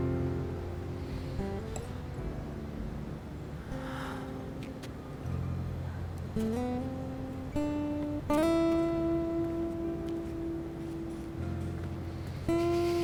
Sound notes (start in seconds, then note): 3.6 sigh